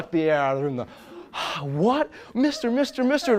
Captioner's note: huge sigh